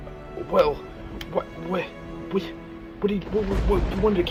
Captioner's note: stammering